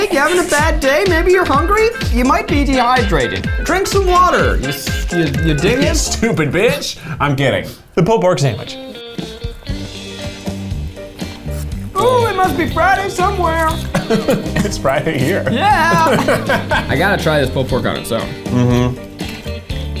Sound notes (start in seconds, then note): 16.5 laughing